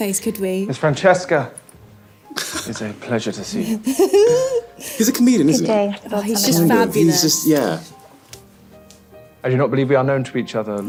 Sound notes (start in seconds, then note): 2.3 Victor laughing; 3.6 Hannah laughing